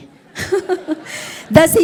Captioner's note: audience chuckling; laughs